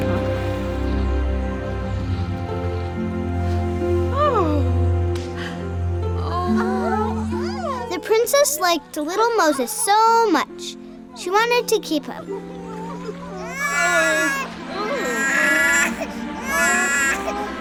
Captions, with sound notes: (Princess exclaims) The princess liked little Moses so much she wanted to keep him. (baby cries)